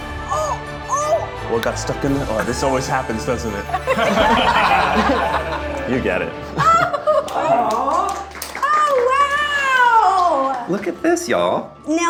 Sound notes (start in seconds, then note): 3.6 group laughing; 9.8 group clapping